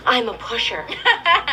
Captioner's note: Regina George laughing